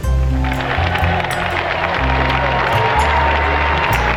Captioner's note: crowd cheering